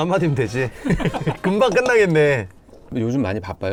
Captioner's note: bursts out laughing